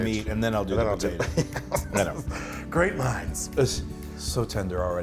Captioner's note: laugh